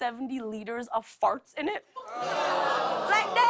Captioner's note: audience groans